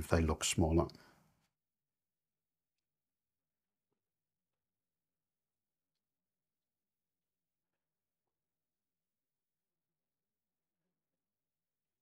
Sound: silence

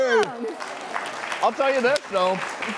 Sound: clapping

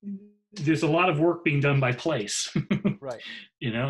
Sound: laughs

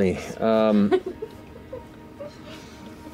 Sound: laughter

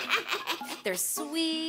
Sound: chuckling

